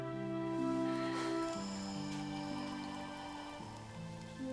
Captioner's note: Bill snoring